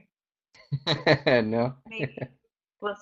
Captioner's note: laughing